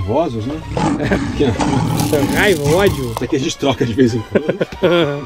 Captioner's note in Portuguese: risos